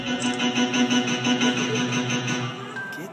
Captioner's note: sound of alarm